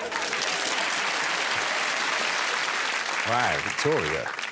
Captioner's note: audience applauding